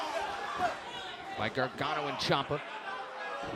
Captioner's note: crowd chatter